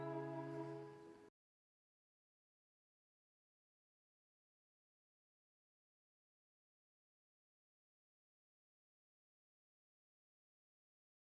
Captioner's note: no sound because of copyrights